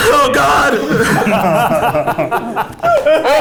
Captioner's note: everybody laughing